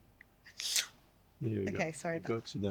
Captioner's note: laughing